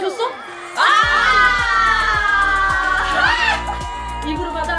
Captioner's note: ah!